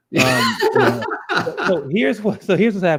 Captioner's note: laughs